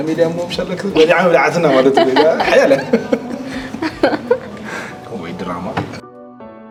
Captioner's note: laughs